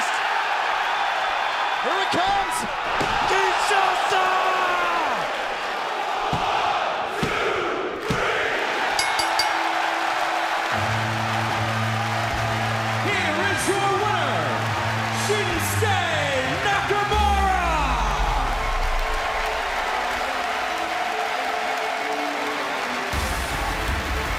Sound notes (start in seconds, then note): 8.8 cheers and applause; 8.9 bell ringing